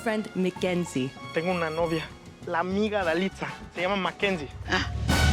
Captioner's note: speaking Spanish